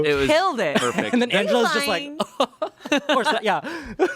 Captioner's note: chuckles